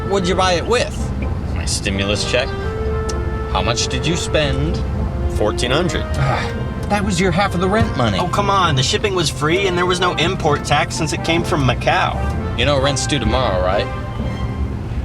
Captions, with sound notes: What'dya buy it with? My stimulus check. How much did you spend? $1400. (groans) That was your half of the rent money! Oh come on! The shipping was free, and there was no import tax since it came from Macau! You know rent's due tomorrow, right?